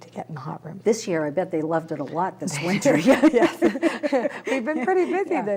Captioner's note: laughter